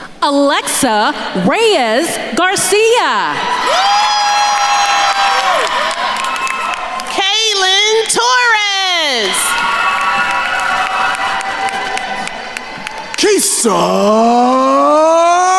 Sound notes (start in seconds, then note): 0.0 attendees laughing; 3.7 attendees cheering and applauding; 9.5 attendees cheering and applauding